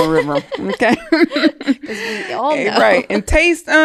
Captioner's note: both laughing